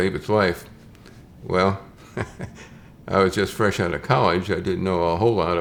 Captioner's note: chuckles